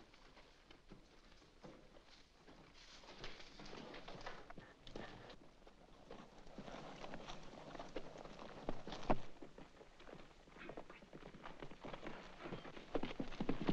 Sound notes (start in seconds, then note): 3.0 noise from horse's hooves; 12.7 hooves pounding